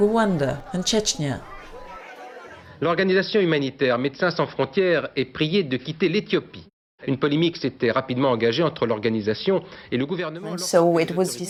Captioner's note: speaking french